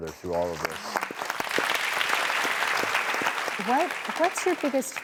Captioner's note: audience clapping